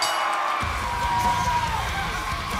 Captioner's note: bell ringing